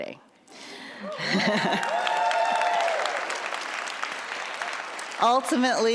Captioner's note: audience laughs and applauds